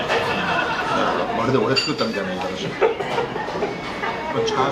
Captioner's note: laughs